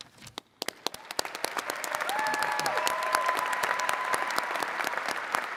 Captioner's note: attendees cheering and clapping